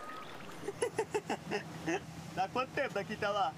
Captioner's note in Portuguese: Whindersson ri